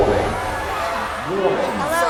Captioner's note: alarm; alarm sounding; people yelling